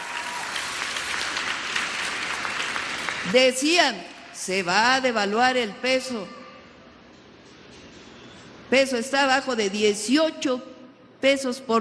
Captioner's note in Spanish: aplausos